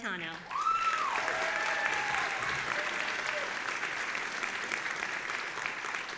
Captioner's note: audience applauding and cheering